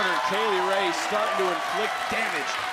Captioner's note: crowd cheering